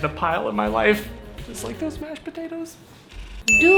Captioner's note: whispers